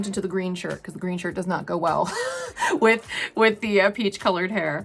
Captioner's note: chuckles